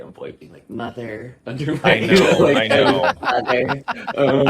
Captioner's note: laughing